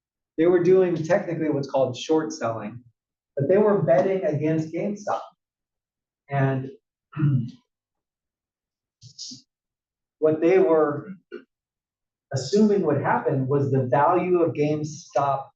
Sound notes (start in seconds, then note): 7.2 cough